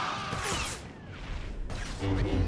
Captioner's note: screaming; dramatic music